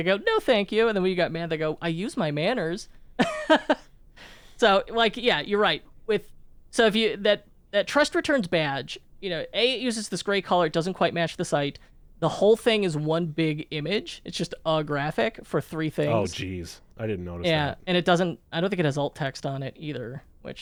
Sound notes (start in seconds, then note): 3.4 laughs